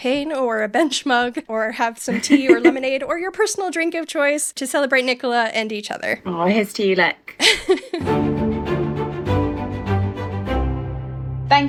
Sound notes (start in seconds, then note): 7.6 laughing; 8.0 upbeat music